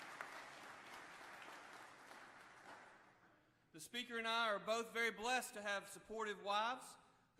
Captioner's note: applause